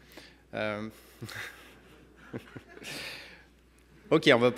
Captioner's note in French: rires